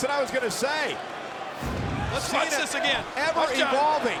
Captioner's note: graphics whooshing